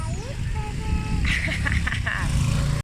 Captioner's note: mom laughs